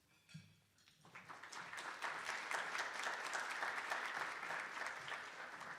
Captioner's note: attendees applauding